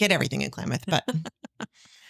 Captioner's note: laughing